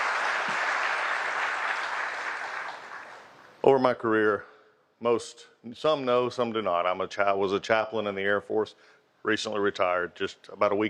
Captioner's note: applause